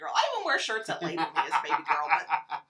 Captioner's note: laughs